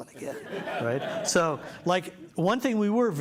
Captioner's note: laughter